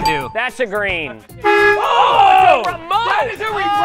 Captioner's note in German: horn blares